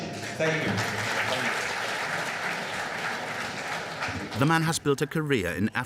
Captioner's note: audience applauding